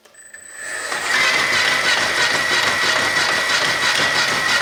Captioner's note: motor whirring